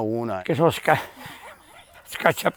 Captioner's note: laughs